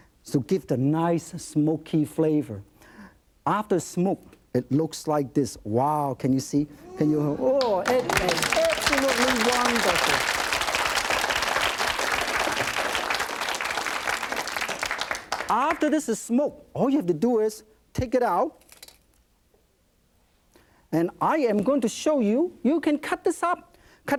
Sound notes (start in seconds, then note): 7.1 audience oohs and applauds; 10.5 audience applauds